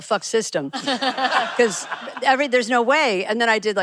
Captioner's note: laughing